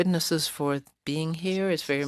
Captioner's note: speaking French